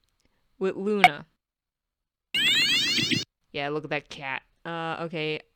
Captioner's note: electronic waaa